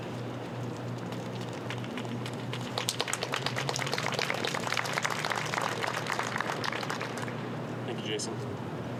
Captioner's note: applause